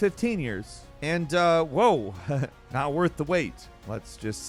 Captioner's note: laughing